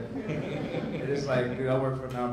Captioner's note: audience laughs